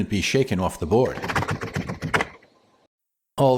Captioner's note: shaking Sounds!